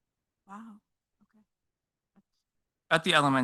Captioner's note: speaks faintly